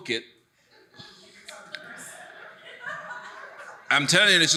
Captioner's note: audience laughing